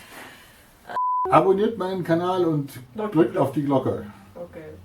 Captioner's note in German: Aus dem Off